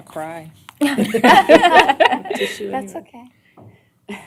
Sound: laughter

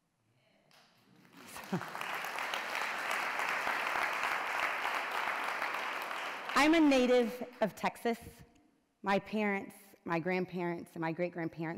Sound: applause

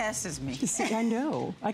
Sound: laughter

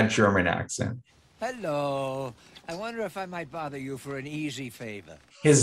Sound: Jack Lemmon in a spotty German accent

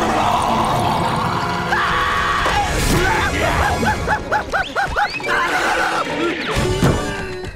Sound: screaming

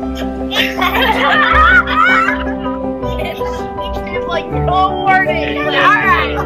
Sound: laughter

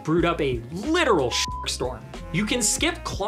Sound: beep

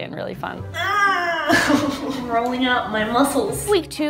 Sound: grunting

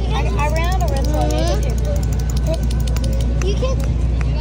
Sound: background kids chatter

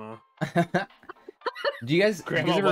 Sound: laughing

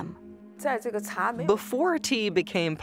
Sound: speaking Chinese

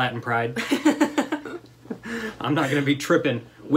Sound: laughter

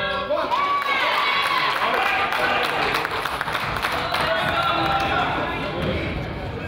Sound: crowd applauds; coach yells

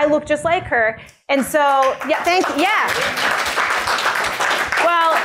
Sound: applause

